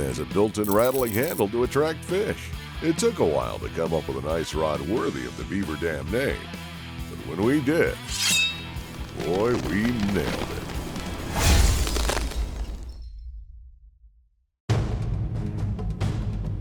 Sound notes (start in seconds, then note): 8.2 ice shattering; 12.3 dramatic music